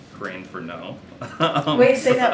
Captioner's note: laughs